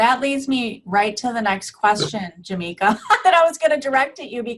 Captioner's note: laughing